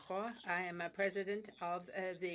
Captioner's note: speaking French